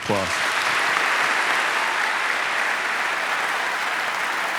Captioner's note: audience applauding